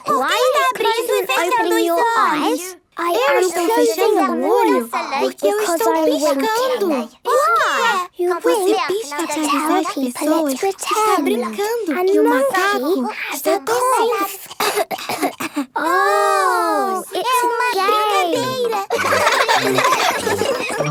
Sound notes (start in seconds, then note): 14.4 pretending to cough; 17.8 laughs